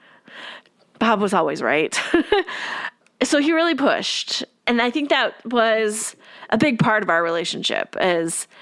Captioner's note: laugh